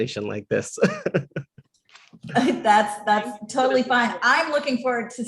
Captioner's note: laugh